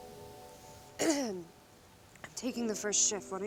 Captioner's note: Mackenzie clears throat